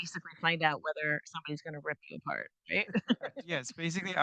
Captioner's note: chuckles